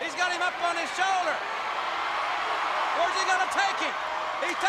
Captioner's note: crowd cheering